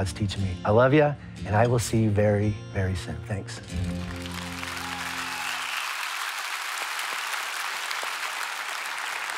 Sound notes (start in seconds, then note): 3.9 audience applauds